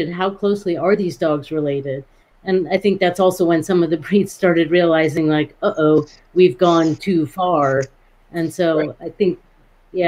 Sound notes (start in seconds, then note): none